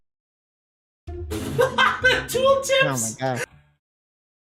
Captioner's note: laughing